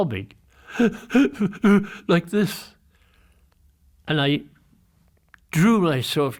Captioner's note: sobs